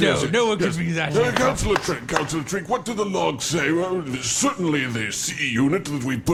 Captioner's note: bangs gavel